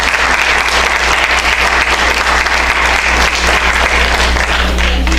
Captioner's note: applause